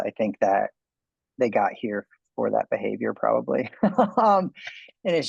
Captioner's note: man laughs